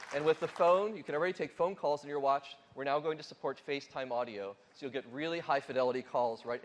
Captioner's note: applause